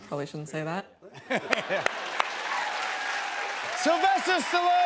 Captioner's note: cheers and applause